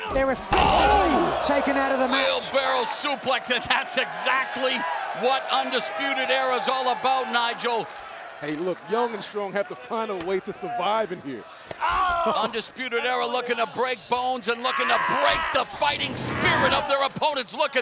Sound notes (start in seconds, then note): 12.2 wrestler screams